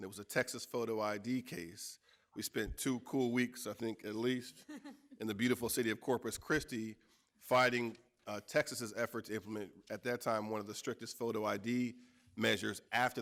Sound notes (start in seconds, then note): 4.6 laughing